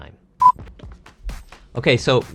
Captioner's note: beep